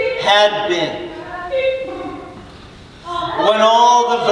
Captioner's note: mocking birds chatter